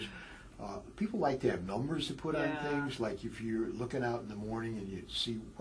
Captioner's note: laugh